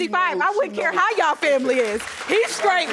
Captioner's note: audience clapping